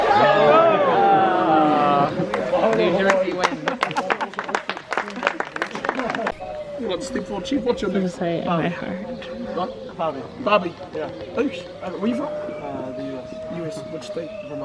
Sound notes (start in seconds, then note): 0.1 group gasps; 4.8 group clapping